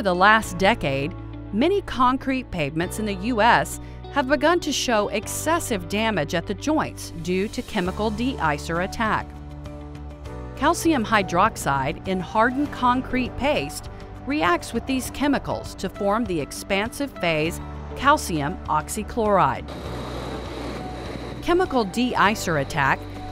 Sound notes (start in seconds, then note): 19.6 truck engine